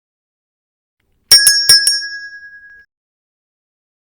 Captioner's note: silence again totally on purpose; ding